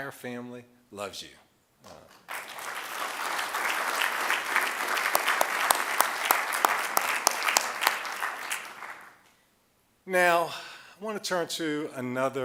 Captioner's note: applause